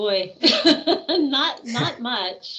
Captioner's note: laughing